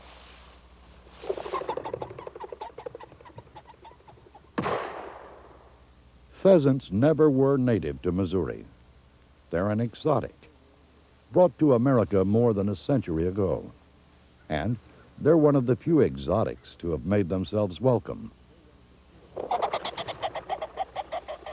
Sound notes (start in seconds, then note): 1.2 bird sounds; 4.5 gunshot; 19.3 pheasant sounds